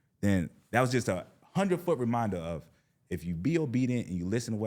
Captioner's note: none